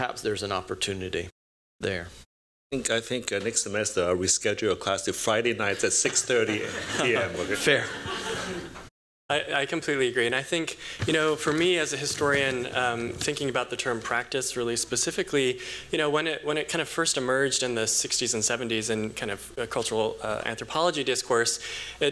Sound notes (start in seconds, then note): 6.3 laughter